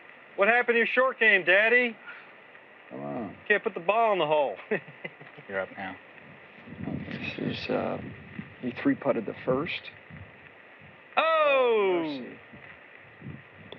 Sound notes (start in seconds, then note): 4.5 chuckles